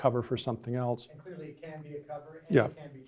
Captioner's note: voiceover